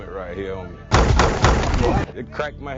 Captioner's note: helmets slamming together